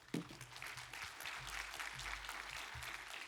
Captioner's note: applause